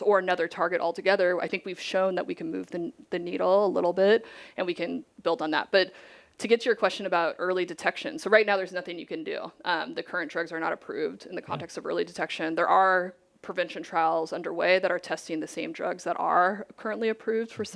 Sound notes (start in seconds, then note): none